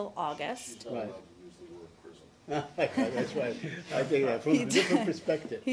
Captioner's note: laughter